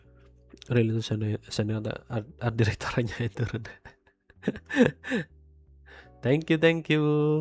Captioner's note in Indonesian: tertawa